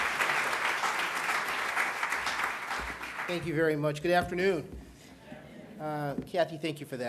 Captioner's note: applause